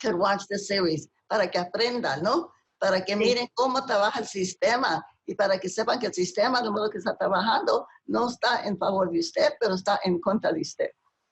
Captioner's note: speaking spanish